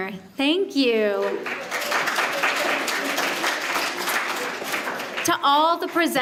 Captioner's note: applause